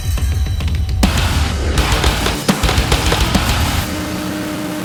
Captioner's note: gunshots